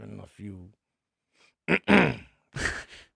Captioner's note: clears throat